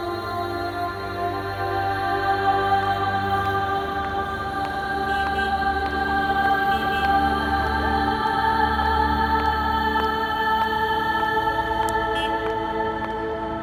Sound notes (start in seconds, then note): 5.8 cars honking